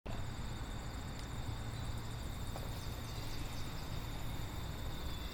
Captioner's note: crickets and birds chirping